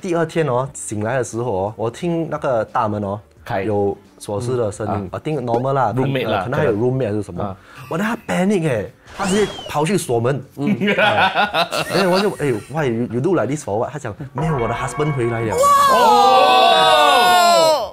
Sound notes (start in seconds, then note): 10.9 laughs